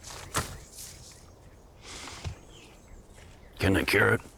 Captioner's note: foot stomping